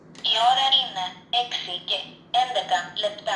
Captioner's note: female electronic voice